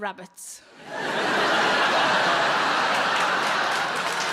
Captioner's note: audience laughing